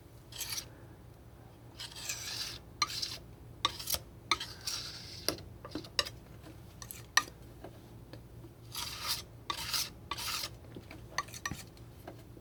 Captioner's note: scratching